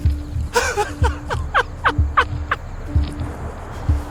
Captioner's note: person laughing